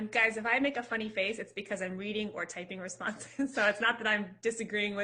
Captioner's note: chuckles